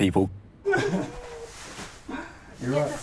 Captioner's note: chuckles